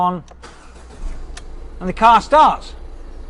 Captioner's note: engine revving